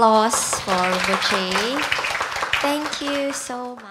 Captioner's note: audience applauding